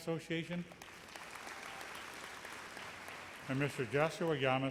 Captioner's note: audience applauds